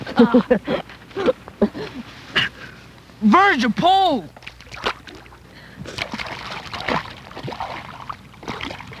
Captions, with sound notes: [Rustling sounds and laughter] Virg, your pole! [Fishing rod splashes in water] [Hands splash in water]